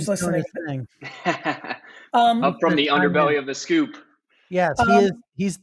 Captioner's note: laughs